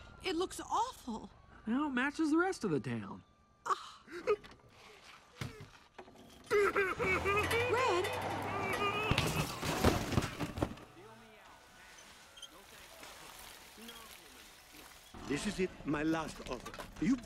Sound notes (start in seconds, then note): 3.3 gasping; 6.5 crying